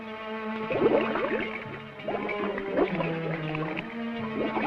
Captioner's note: spooky orchestral music; bubbles gurgling